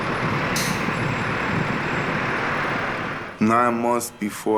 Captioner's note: cars passing